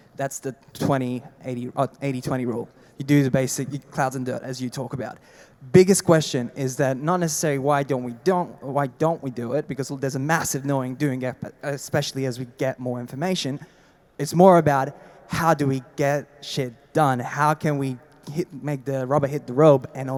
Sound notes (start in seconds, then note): none